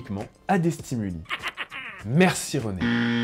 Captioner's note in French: rire